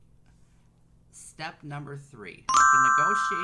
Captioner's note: chiming